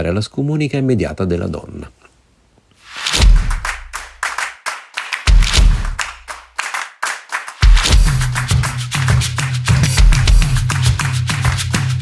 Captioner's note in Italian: Applauso